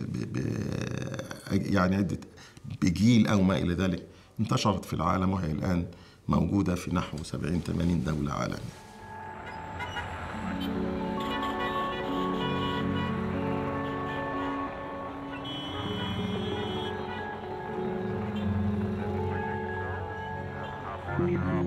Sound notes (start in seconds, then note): 9.1 traffic noises; 10.6 background music